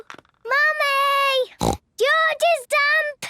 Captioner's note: snorts